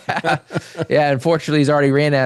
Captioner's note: both Laughing